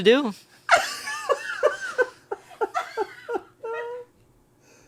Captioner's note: laughs